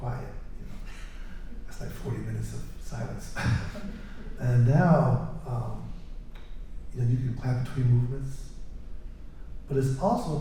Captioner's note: laughter